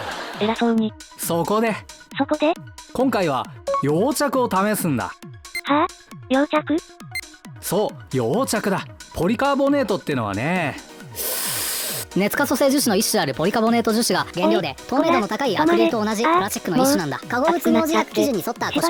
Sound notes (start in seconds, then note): 11.1 breathes heavily